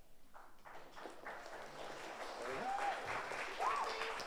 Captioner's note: audience applauds